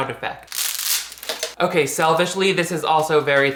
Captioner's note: wood cracks